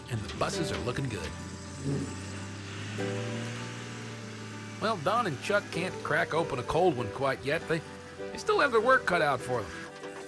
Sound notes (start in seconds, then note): 2.1 engines revving